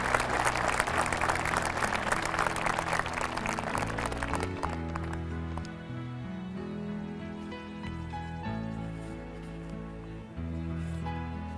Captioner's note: cheers and applause